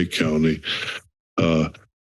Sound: inhales

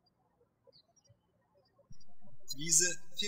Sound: birds chirping

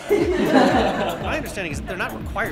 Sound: laughter

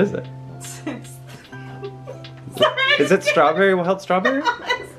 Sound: laughs loudly

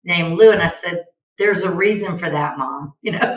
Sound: chuckles

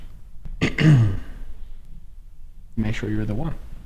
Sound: Terrence clears his throat

